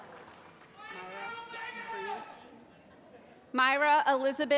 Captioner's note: voiceover